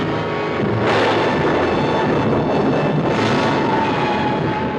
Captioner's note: thunderclap crashing